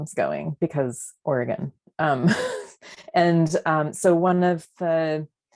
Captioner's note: laughter